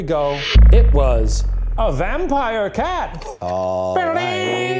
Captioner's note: spring boings; vocalizing triumphant music